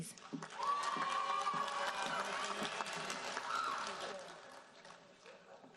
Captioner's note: audience cheering and applauding